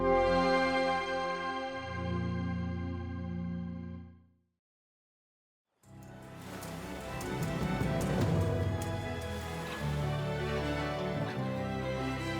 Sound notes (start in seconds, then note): 0.0 deep rumbling ethereal music; 5.9 gentle music; 6.4 waves crash